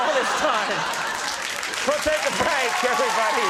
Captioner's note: audience applauding